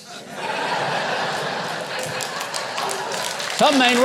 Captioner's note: audience laughing